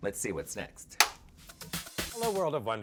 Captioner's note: button clicking